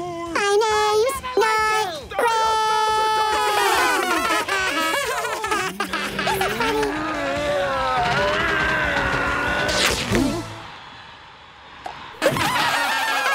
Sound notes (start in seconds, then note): 3.3 laughing; 9.7 ripping noise; 12.2 laughing